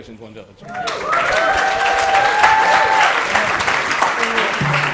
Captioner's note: applause